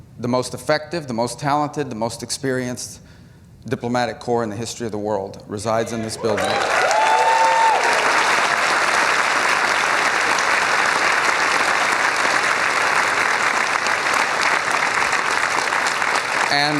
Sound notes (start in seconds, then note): 12.7 applause